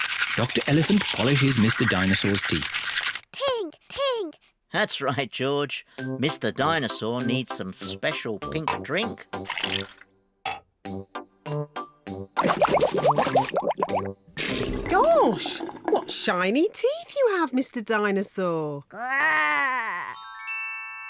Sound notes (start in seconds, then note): 12.4 bubbles